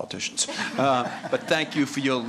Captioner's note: laughter